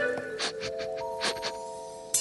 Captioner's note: sniffing